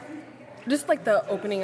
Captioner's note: background chatter